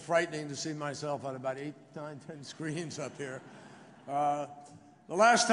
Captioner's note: laughter